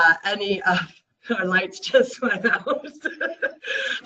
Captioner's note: laughs